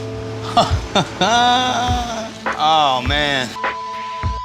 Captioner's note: laughs